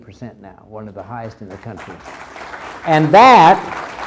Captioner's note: crowd applauds